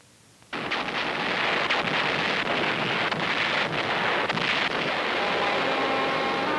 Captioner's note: Explosions, Naval Station Pearl Harbor